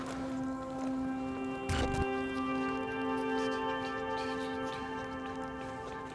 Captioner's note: somber music; footsteps crunch